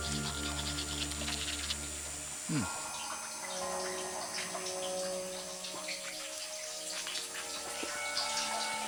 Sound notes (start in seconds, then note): 2.9 water trickling